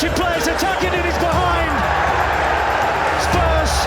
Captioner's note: crowd cheering